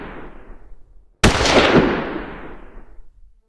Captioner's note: gun Shot